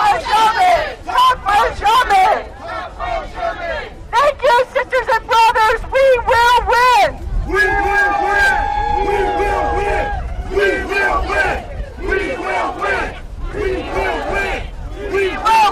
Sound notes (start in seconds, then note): 2.8 shouting; 13.6 chanting